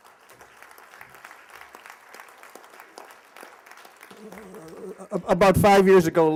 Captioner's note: applause